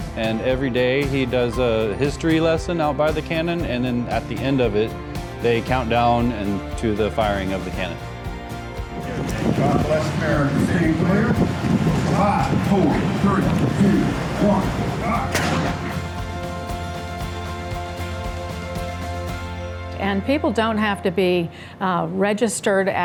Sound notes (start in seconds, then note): 15.3 cannon bangs; 16.7 upbeat music